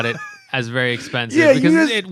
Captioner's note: laughter